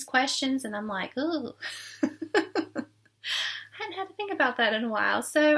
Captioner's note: laughing